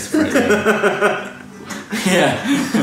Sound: laughs

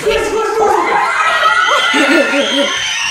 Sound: screaming

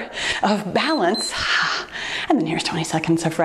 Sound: timer beeps

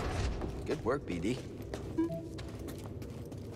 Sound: boo-beep

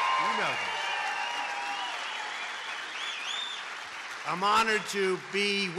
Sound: applause

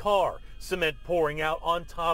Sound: siren sounding

